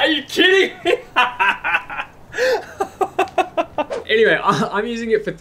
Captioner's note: laughing